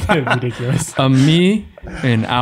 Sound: laughing

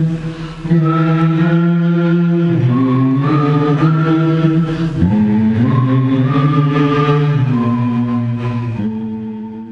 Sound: Other Vonts join with whistling

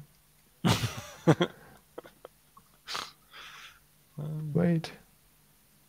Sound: laughing

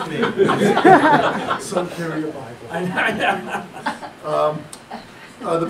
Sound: audience Laughter

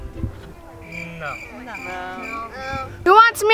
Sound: crickets chirping

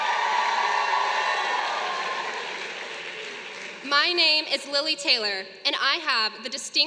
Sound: applause

